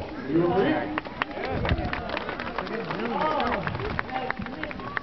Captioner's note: applause